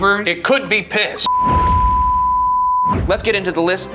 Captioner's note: tone beeping